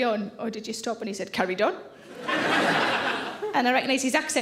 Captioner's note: audience laughing